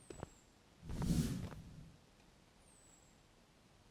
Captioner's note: smoke plume sound